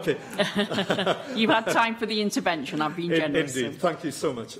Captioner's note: laughter